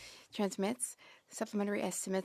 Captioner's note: speaking French